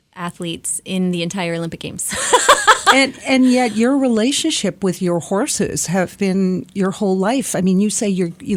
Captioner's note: laughs